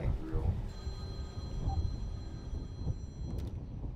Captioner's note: phone ringing